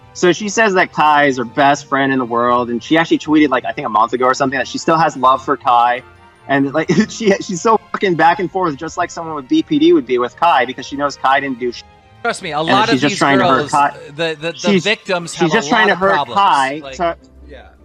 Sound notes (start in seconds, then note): 6.9 laughs